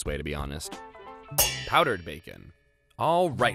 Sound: pans clanging

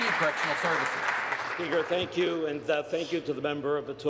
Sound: applause

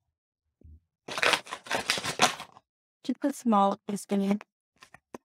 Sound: sugar bag crackling

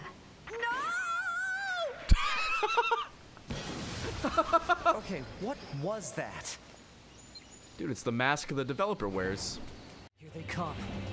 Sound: laughs

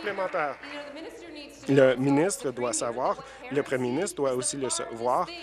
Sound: applause

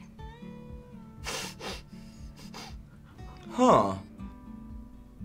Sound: chuckles

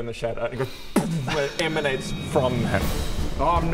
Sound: boom!

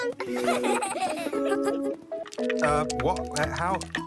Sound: laughing

